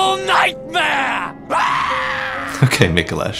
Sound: screams manically

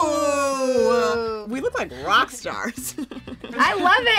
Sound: laughs

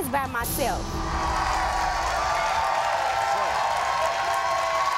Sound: audience clapping

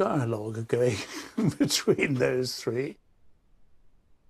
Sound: chuckles

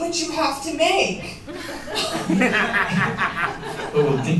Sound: laughter

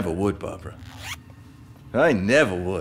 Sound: zips

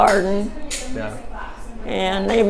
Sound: talking in background

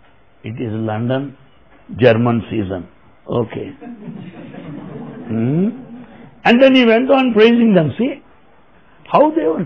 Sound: laughter

